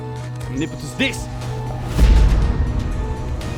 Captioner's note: spell cast